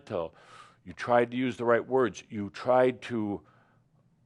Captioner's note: none